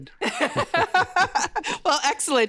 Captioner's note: laughing